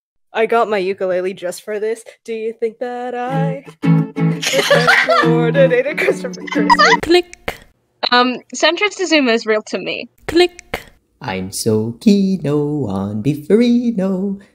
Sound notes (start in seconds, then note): 4.3 laughing; 7.6 click; 10.2 click